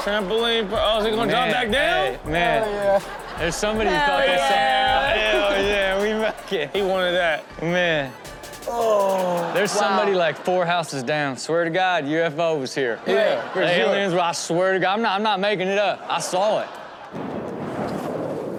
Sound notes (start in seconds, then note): 9.1 audience laughs; 12.7 audience laughs; 17.1 blustering wind